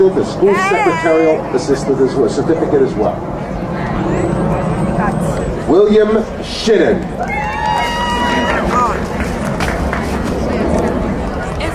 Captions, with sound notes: and School Secretarial Assistant certificate, as well. William Shin. (crowd cheering)